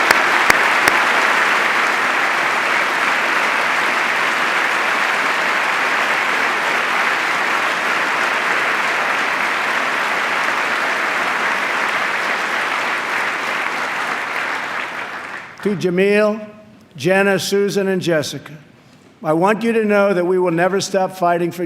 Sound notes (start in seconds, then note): 4.6 applause